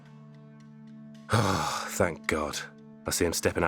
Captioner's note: sighs